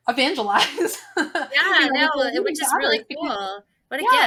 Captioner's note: laughs